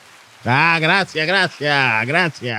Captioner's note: speaking In Foreign Language